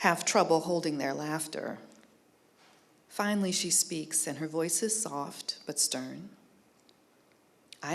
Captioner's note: none